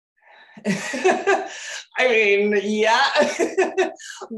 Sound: laughing

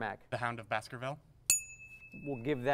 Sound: ding

